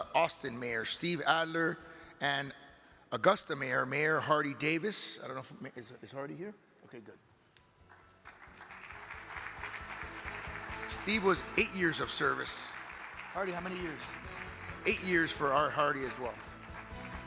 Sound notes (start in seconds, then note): 8.3 audience applaud; 17.0 cheerful upbeat music